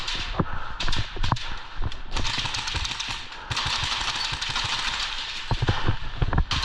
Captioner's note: exchanging fire